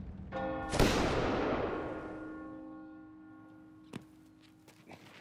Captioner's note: gunshots banging